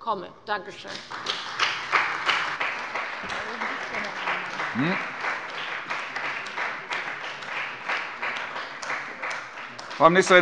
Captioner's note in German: Beifall bei der CDU und dem BÜNDNIS 90/DIE GRÜNEN